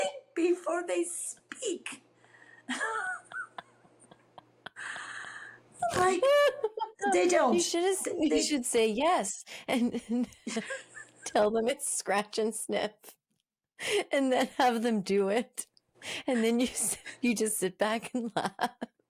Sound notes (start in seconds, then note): 0.2 laughs; 8.0 both laughing